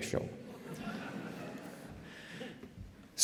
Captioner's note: laughter